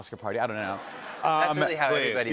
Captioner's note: laughter